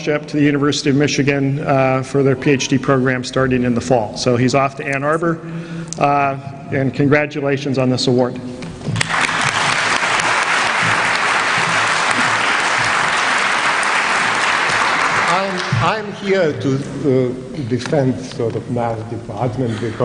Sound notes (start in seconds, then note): 8.9 applause